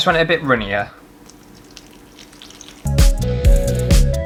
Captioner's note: water Pouring